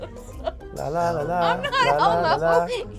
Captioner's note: laughs